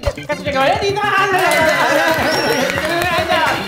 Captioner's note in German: Jubel, Applaus